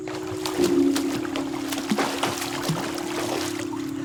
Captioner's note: water splashing